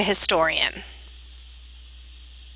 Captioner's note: Arabic